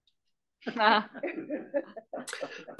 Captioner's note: laugh